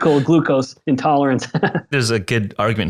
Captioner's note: laughing